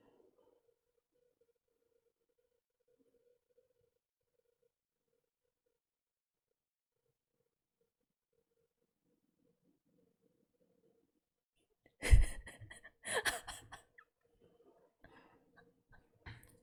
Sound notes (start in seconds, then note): 12.0 laughs